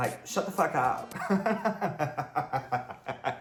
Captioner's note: laughs